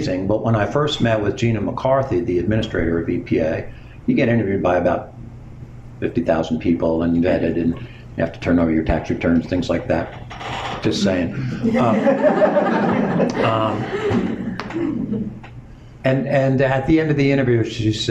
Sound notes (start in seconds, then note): 11.6 laughter